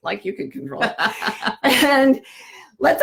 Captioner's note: laughs